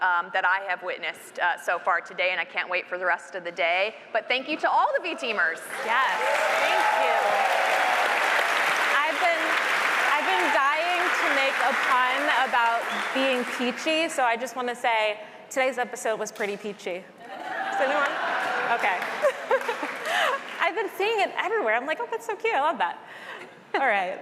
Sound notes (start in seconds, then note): 7.1 applause; 19.1 chuckles; 19.4 applause